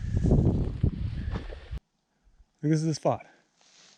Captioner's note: air whooshing